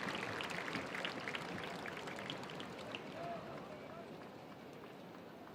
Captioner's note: attendees applauding